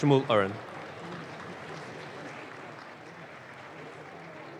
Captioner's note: audience claps